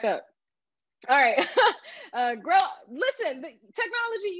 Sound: laughs

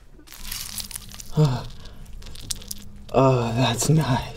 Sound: grease spattering

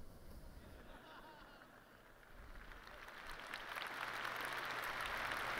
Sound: laughter

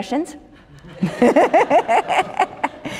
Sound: laughter

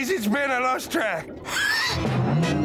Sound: gasps

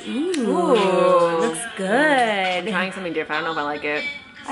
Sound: none

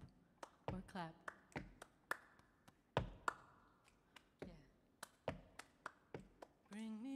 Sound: tapping rhythmically; clapping rhythmically

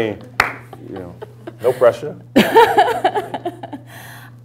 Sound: laughter; laughter

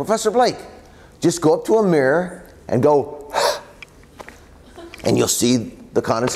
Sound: blows hot air into his hand

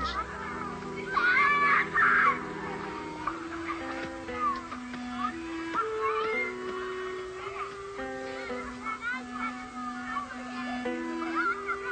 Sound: children Playing

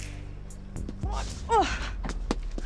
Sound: grunting

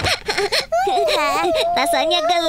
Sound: laughing

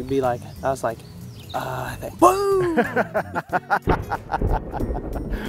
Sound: laughter

